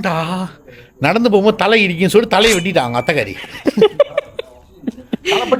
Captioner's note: laughter